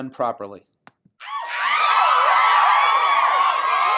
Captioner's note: cheering